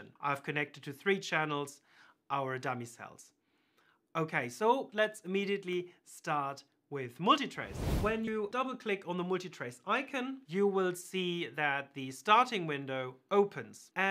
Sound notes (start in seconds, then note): 7.6 screen whooshing